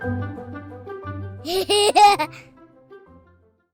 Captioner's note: laughter